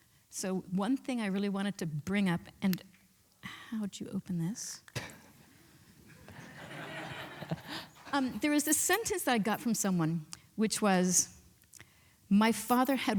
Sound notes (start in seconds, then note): 6.1 laughs